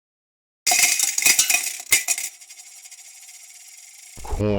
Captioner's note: background music. * sound of falling change